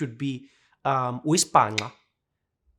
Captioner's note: speaking Xhosa